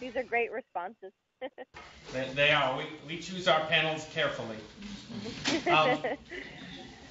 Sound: laughter

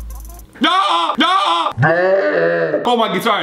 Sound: screams

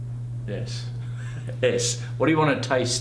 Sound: laughs

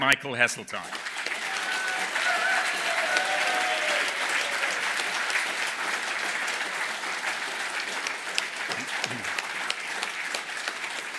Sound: applause

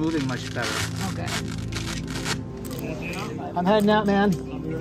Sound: tape ripping

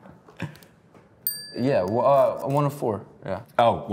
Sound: bell dings

